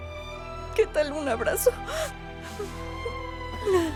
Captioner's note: Solloza